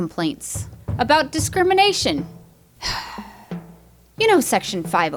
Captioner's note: weary Sigh